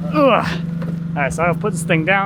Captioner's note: groans